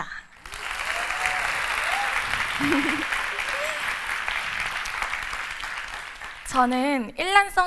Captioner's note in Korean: 박수와 환호